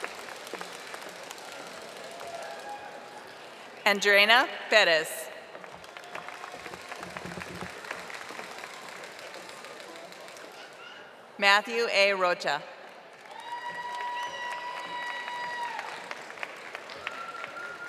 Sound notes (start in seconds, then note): 2.0 audience applauding; 9.2 audience applauding